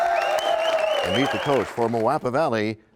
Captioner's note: cheers and applause